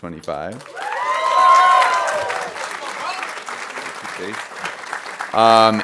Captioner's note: audience cheering and applauding